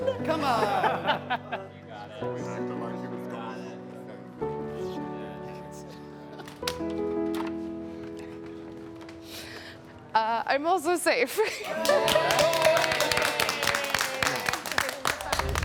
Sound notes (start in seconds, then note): 2.5 soft music; 6.4 latch clicks; 11.4 chuckles; 11.6 group cheering and clapping